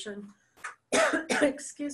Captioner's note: cough